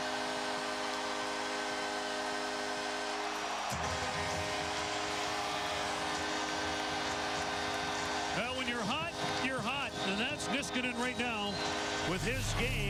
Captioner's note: cheers and applause; horn blaring